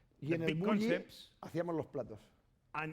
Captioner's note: speaking spanish